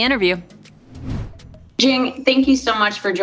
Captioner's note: whoosh